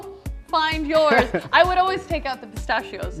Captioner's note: laughs